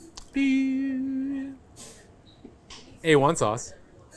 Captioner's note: hums